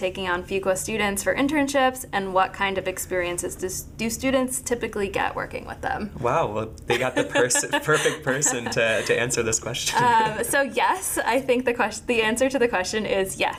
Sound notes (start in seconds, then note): 6.9 laughing